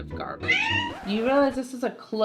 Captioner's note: loud meow